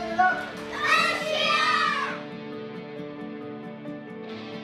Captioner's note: shouts; kids shout